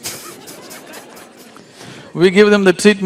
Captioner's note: laughter